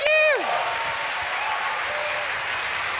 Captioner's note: cheering